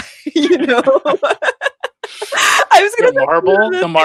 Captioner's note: laughs